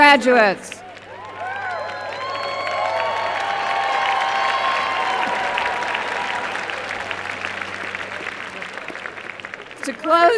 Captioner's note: applause